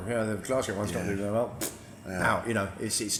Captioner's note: lips blowing